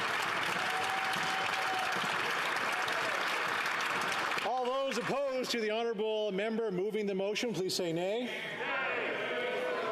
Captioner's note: some Applause